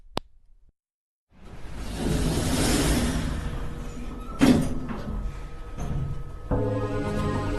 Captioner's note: click; elevator closes